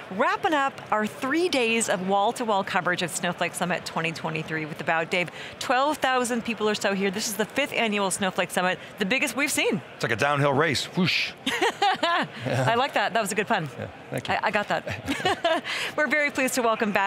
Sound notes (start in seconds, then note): 11.4 laughing; 14.4 laughing